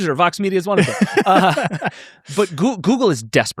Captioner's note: laughing